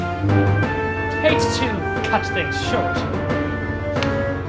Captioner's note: chuckles